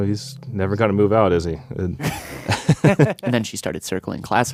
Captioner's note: laughs